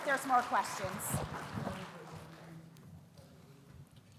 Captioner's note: audience claps